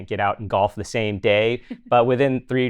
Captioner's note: chuckling